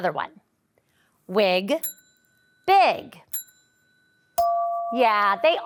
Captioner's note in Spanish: campanillas de audio; tintineo de audio